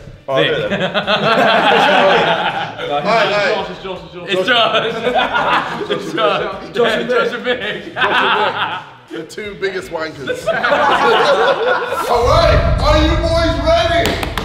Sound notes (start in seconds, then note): 0.6 laughing; 7.9 laughing; 12.0 swishing sound; 14.2 banging